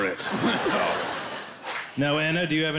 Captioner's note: crowd laughing